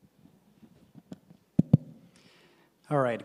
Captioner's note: taps microphone